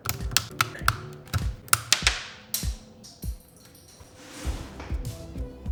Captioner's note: controller parts snapping together